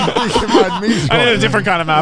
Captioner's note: all laughing